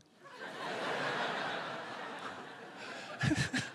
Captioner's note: laughter